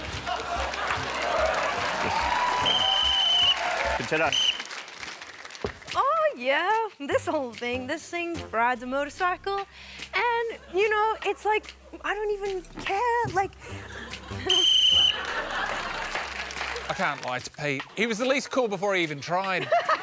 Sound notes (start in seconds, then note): 0.0 applause; 2.2 whistle blows; 14.4 whistle blows